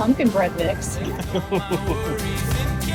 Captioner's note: laughing